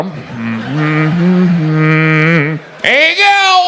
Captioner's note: hums